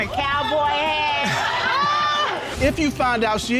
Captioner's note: audience exclaims